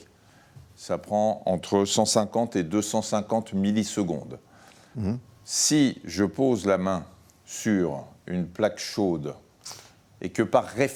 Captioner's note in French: grognement